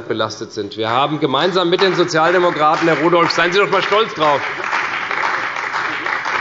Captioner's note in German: Beifall bei der CDU und dem BÜNDNIS 90/DIE GRÜNEN